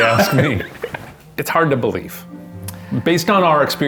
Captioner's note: laughing